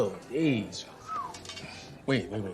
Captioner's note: whistles